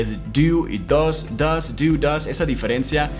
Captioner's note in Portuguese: Inglês